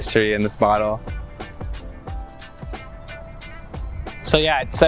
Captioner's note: jazzy music; cicadas buzzing